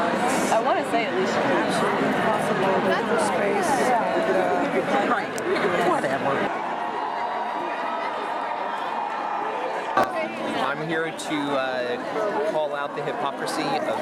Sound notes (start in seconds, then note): 5.0 background chatter; 6.7 crowd cheering